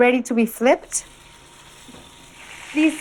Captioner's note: sizzling